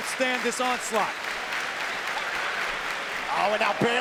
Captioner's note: crowd claps rhythmically